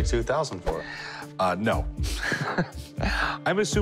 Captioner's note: chuckles